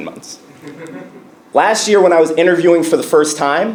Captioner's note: laugh